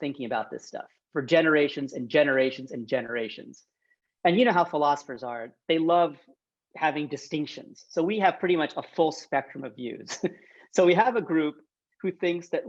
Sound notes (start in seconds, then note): 10.1 chuckles